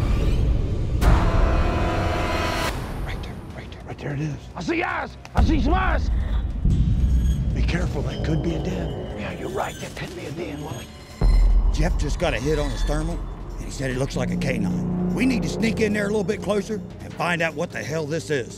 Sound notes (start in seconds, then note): 8.5 whispering